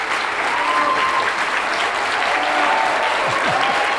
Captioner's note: audience cheers